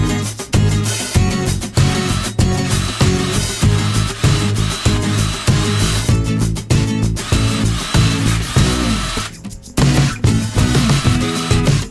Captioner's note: electric drill